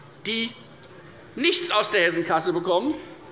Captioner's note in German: none